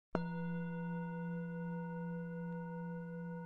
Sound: gong chimes

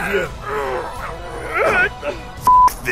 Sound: straining

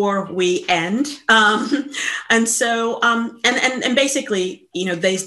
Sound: chuckles

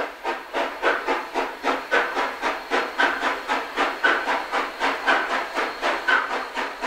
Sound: lite chuffing

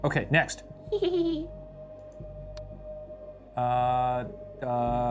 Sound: laughs creepily

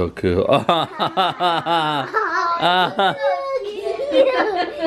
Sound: kids laugh; laughs

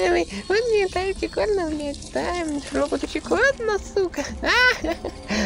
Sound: laugh

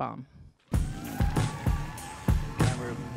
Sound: upbeat music; audience cheering

